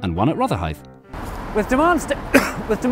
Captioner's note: cough